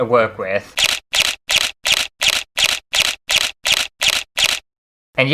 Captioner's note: camera Shutter Sounds